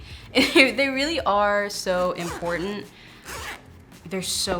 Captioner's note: laughs